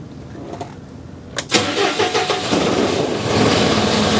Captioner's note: engine revving